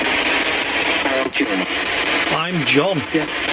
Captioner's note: Ovilus speaking